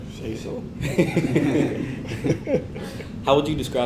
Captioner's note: laugh